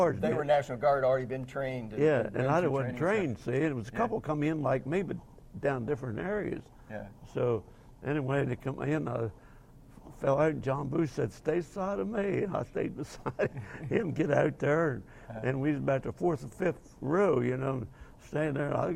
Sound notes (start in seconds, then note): 13.0 laughing